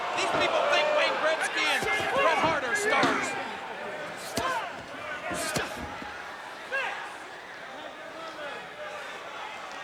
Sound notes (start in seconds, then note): 5.3 foot thuds; 6.9 crowd yelling